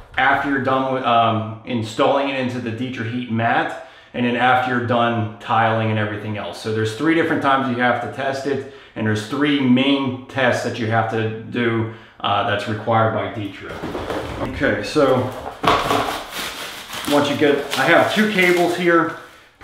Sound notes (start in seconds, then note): 13.7 clattering